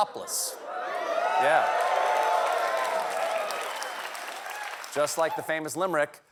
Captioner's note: cheers and applause